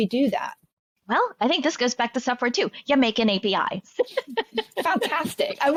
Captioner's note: laughing